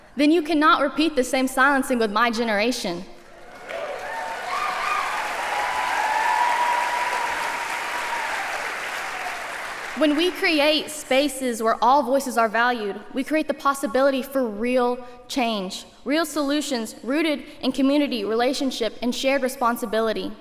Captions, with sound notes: Then you cannot repeat the same silencing with my generation. [APPLAUSE] When we create spaces where all voices are valued, we create the possibility for real change, real solutions rooted in community, relationship, and shared responsibility.